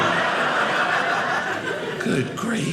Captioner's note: audience laughing